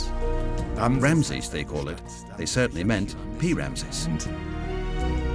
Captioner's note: in German